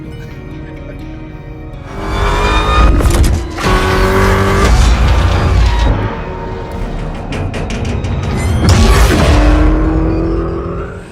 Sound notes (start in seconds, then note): 1.8 car speedily running